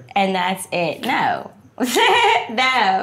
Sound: laughing

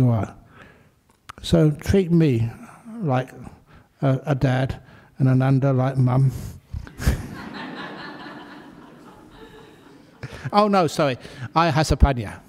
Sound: laughter

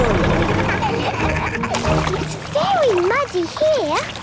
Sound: laughing

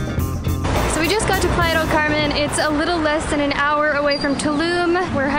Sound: Spanish

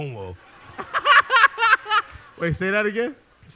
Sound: laughter

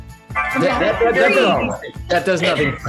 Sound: upbeat music; timer chiming

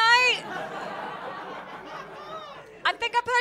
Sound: laughter

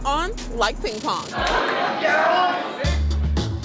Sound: cheering; jazz music

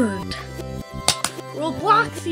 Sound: clap

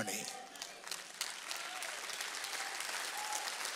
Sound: audience applauds

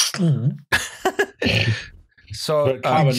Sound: laughter

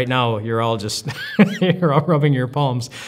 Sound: laughs

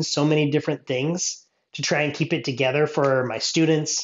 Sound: none

